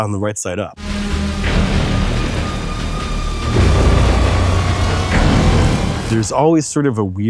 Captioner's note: rain sputtering; thunder rumbling